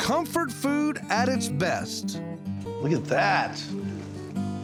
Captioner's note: none